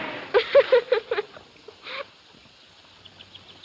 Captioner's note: laughing